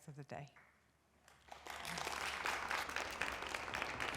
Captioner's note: applause